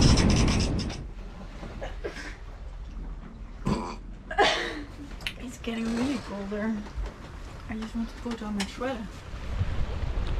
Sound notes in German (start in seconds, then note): 2.0 niesen; 4.3 beide lachen